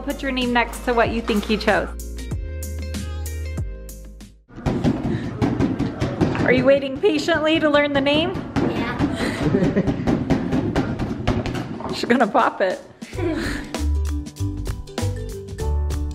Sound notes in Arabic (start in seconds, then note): 4.6 أصوات بالون; 9.1 يضحك; 12.2 موسيقى مبهجة